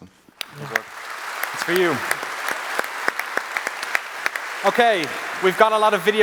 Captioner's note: applause